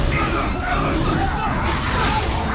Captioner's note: all exclaiming